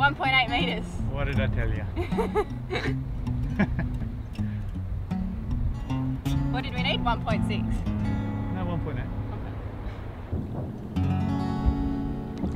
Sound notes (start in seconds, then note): 1.9 laughs